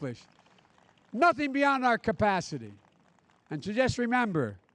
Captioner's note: applause